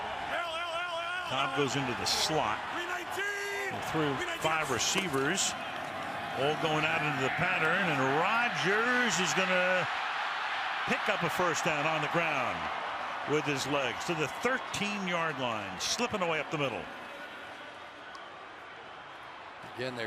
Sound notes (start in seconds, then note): 5.2 pa announcement